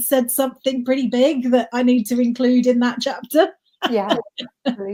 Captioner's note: laughs